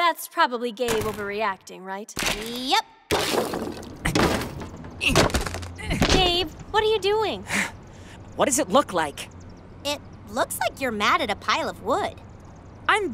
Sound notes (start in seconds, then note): 3.1 crashing